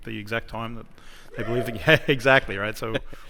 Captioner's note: cheering